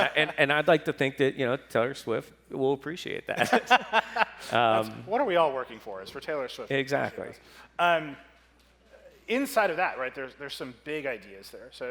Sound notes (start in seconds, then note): 3.4 laughs